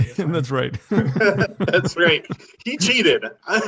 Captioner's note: laughs